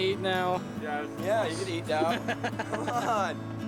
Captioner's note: laughs